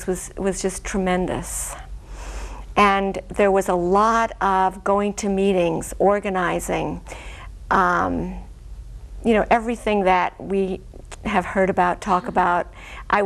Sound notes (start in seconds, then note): none